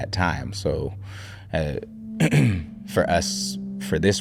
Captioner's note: clears throat